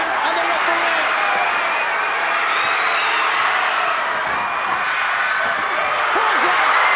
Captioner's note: applause